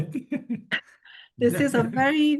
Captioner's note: chuckles